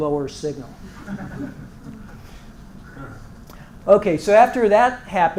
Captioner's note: laugh